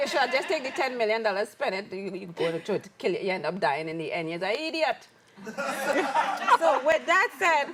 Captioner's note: laughs